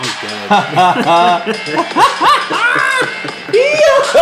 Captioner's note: friend laughs